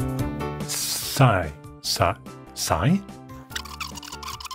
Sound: laughs

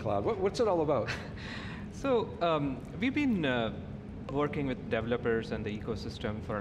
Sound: giggles

